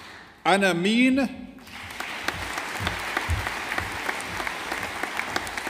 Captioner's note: audience applauding